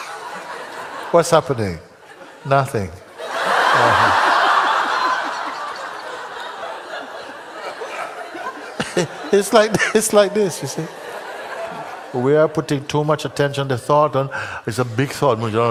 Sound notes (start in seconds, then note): 4.0 laughter